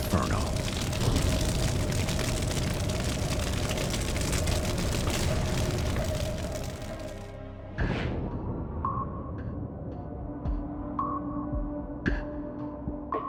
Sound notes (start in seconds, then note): 2.9 fire crackles